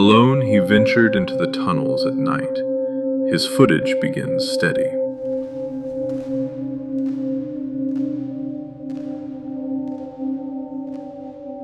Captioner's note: footsteps echoing